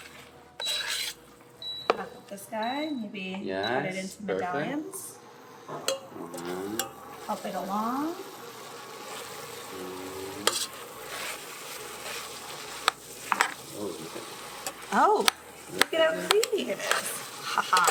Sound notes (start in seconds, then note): 0.3 oven beeping; 9.5 pot sizzles